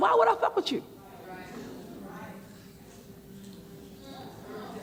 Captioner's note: murmurs